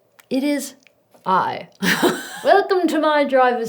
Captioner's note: laughs